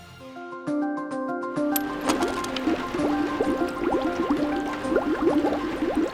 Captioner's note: liquid bubbling; upbeat music